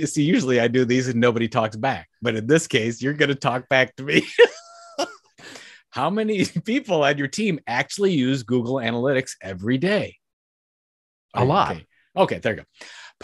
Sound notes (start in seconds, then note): 4.2 laughs